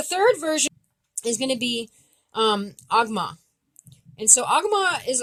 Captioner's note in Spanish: lenguaje Abenaki